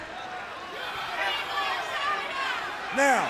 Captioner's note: crowd cheering